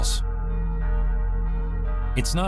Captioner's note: bells ringing